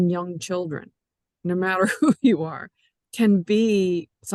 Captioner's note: chuckles